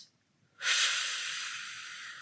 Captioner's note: inhales